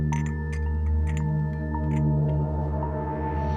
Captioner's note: cup clanging